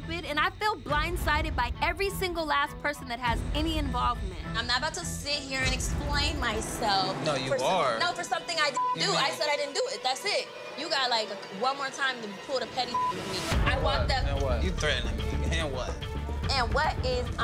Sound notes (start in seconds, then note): 12.8 beep